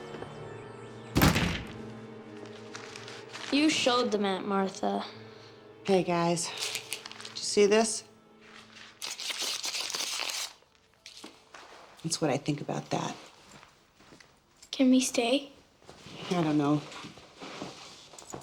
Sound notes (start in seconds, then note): 8.4 crumpling